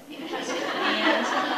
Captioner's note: audience laughing